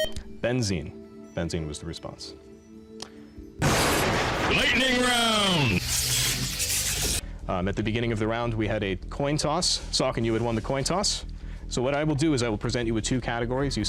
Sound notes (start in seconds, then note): 0.0 time-out buzzer; 4.5 dramatic voice